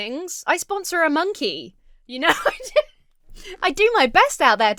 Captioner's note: Emma laughs